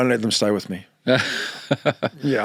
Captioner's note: laughing